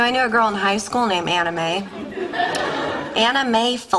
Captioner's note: audience laughter